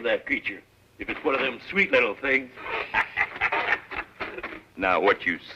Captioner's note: laughs